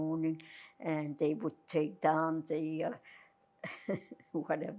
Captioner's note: laughing